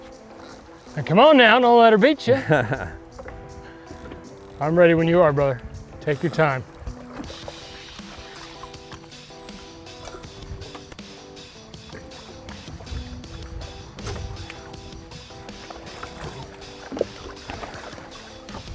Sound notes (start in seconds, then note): 2.3 chuckles; 7.2 upbeat rock music